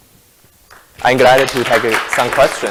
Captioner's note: audience clapping